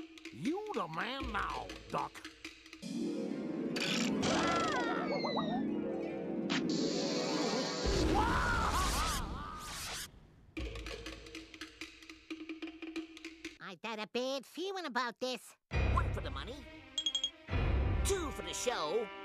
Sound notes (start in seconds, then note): 4.5 Daffy yelling; 7.9 Sylvester yelling